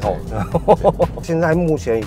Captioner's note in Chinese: 哈哈哈